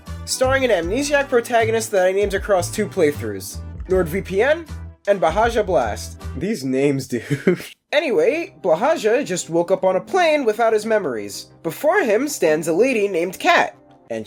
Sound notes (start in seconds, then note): 7.2 giggles